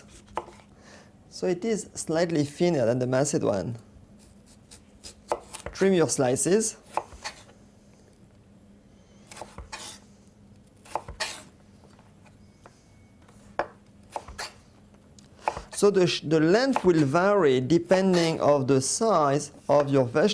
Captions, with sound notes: So it is slightly thinner than the macedoine. Trim your slices. [cutting sounds] So the length will vary depending on the size of your vegetables.